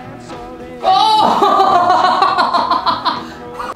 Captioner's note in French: Rire